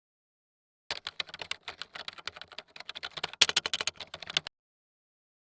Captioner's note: keyboard clicking